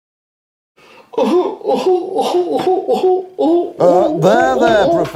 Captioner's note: sobbing